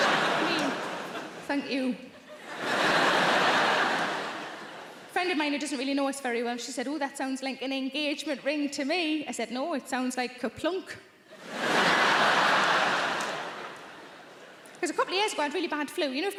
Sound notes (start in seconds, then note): 2.3 audience laughing; 11.3 audience laughing